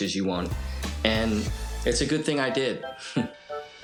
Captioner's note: chuckles